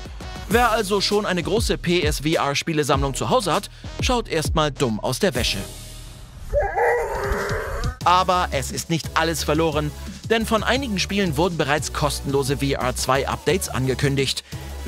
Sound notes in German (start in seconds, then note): 6.5 Wiehern